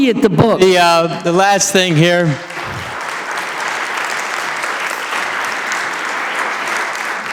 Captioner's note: audience applauding